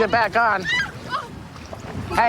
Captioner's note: screaming